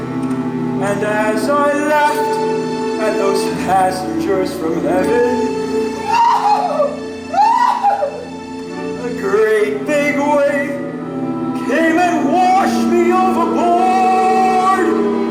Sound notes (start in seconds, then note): 7.3 shrieking laugh